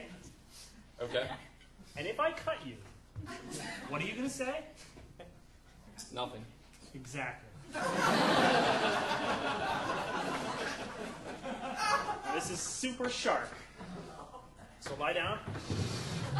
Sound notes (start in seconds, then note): 7.7 audience laughing